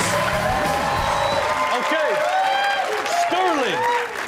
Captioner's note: audience claps and cheers